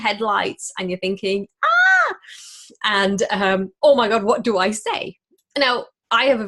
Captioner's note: screams